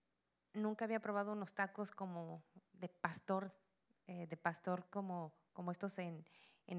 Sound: Spanish language

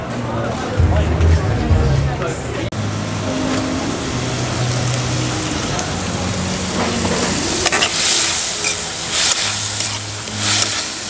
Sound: sizzling and sound of spoon in pan

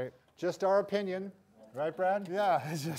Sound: laughs

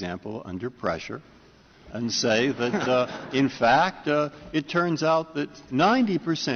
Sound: laughter

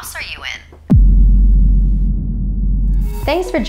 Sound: thud

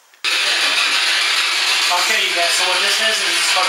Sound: loud static noise

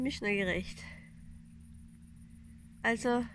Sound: boat engine noise in the background

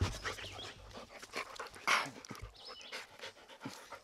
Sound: dog panting

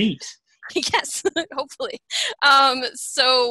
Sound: chuckles

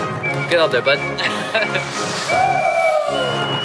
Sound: laughter

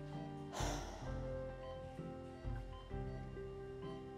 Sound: sighing

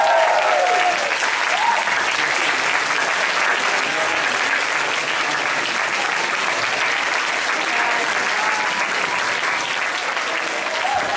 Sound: applause

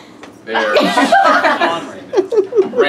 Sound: laughs

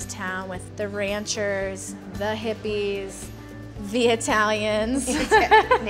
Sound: laughs

